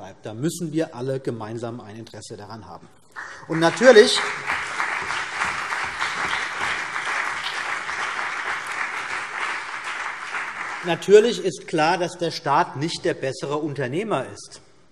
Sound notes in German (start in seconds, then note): 3.2 Beifall CDU und BÜNDNIS 90/DIE GRÜNEN